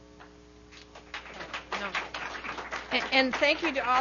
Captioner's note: audience applauding